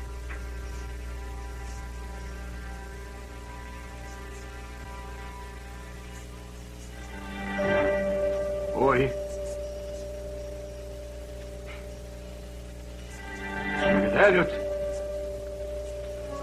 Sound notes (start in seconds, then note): none